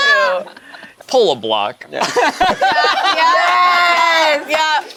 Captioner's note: group laughs